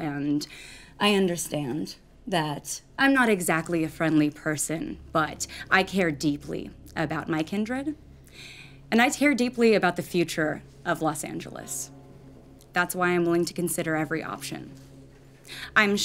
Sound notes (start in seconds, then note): none